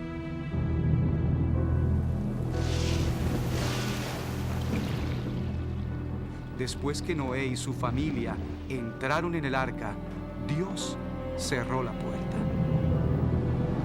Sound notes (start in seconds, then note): 0.1 estruendo de rayo; 2.6 lluvia estrepitosa